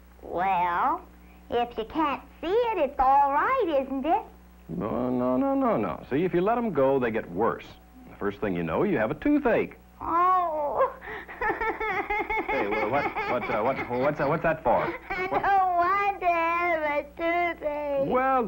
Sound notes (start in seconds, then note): 10.0 crying